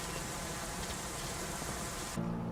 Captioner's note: footsteps